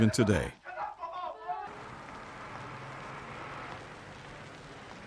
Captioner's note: men shouting